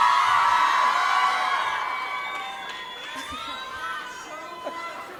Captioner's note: audience cheering